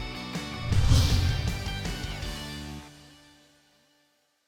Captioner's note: upbeat lively music; whooshing